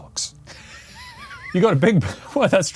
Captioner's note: laughs